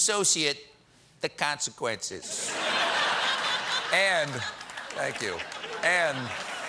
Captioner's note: laughter